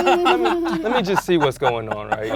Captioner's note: laughing